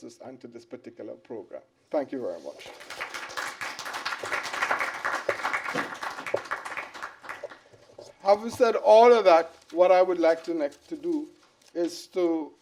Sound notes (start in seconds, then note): 2.6 applause